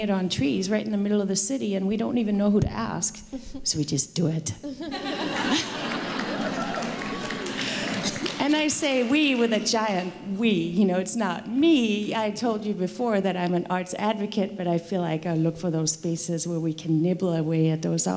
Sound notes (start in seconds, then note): 4.6 laughter